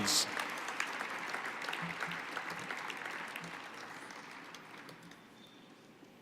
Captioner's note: applause